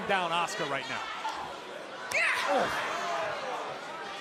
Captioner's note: crowd chatter